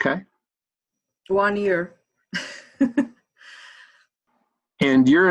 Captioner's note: chuckles